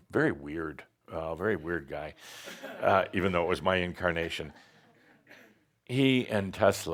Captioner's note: a few chuckles